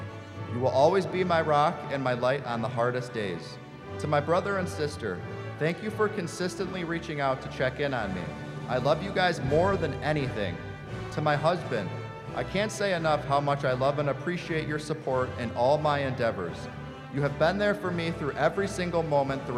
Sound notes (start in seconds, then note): none